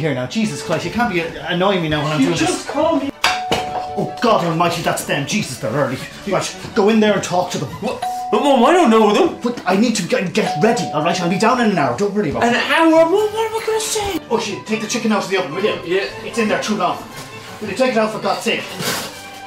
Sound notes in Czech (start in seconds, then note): 3.2 zvoní zvonek